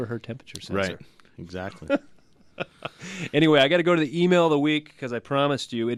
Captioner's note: laughs